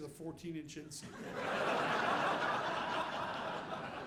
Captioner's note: audience laughing